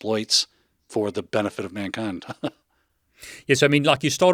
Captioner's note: chuckles